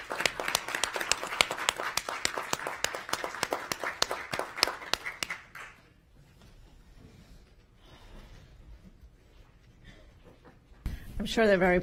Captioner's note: applause